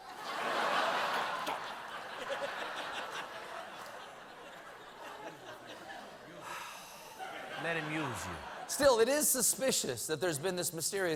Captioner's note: laughter